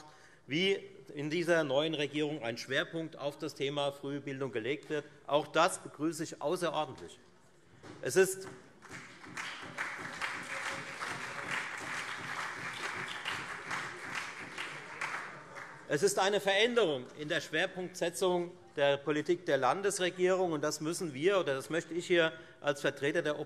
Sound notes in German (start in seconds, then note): 8.7 Beifall Freie Demokraten, SPD und vereinzelt CDU